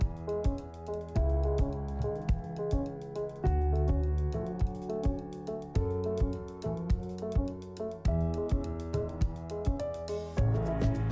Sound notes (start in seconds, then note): none